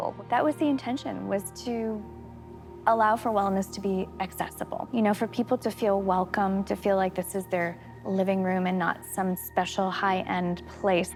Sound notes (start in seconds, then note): none